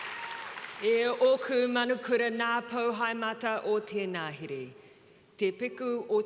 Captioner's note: Jacinda speaking Te Reo Maori